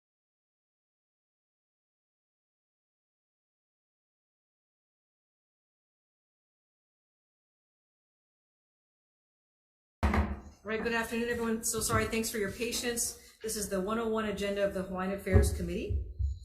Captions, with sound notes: (gavel knocks) - All right, good afternoon everyone. So sorry, thanks for your patience. This is the 101 Agenda of the Hawaiian Affairs Committee,